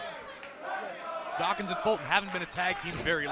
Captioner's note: fans chanting